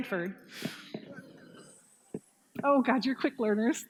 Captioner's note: hissing